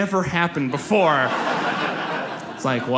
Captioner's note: audience laughs